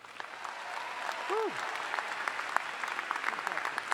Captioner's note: all applauding